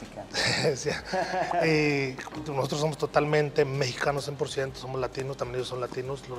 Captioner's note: laugh